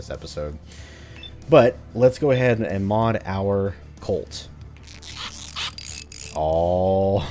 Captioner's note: tinkering noises